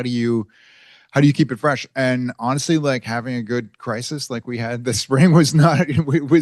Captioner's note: laughs